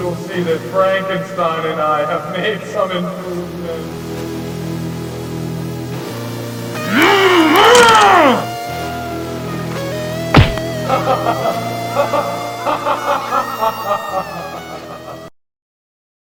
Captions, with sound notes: You'll see that Frankenstein and I have made some improvements. (monster yells) (spine snaps) (laughs maniacally)